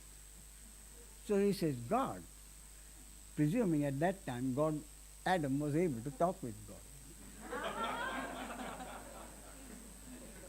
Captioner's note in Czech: smích